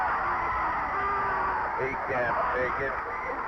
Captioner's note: referee whistling; crowd booing